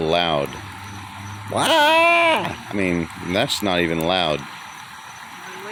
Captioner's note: braying like a goat